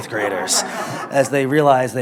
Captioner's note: laughter